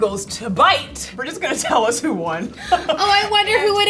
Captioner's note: laughs